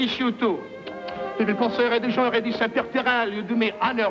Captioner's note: speaking French